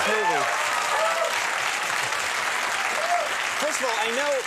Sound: crowd applauds

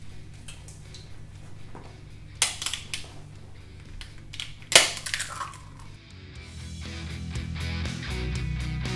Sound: egg cracks

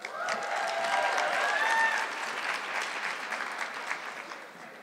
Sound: audience clapping

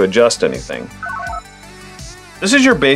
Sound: analog beeps

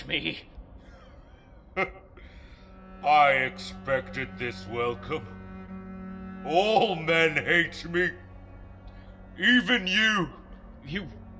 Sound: laughs

